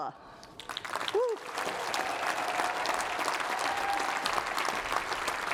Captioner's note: applause